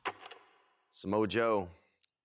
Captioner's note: film reel clicks